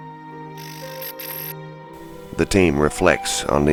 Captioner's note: static fizzing